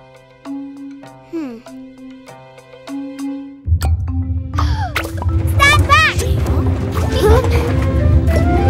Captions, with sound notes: (gasps) - Stand back! - Huh?